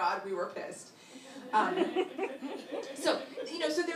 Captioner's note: laughter